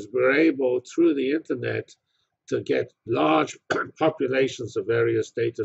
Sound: cough

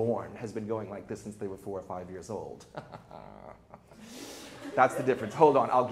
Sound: chuckles

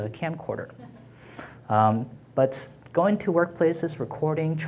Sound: laughing

